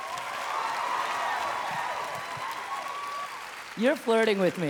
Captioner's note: audience cheering